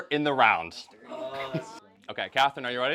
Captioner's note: groans